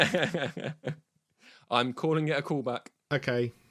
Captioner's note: laughs